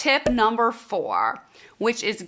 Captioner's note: cork popping